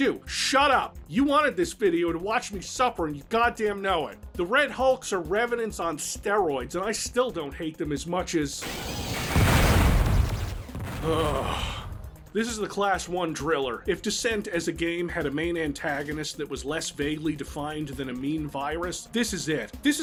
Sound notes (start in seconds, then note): 11.0 sigh